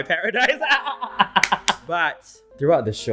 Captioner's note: both laughs